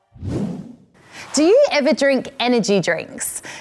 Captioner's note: none